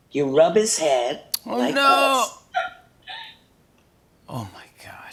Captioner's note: toy coos